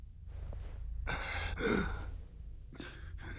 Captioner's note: grunts softly